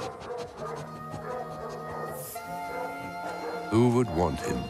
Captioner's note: dogs barking